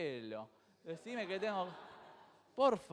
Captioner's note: crowd laughs